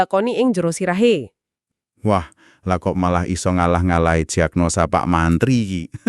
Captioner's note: chukels